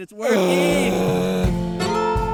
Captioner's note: Keith groaning; bright music